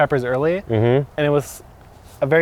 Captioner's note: hums